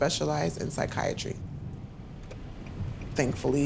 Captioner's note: turn signal clicking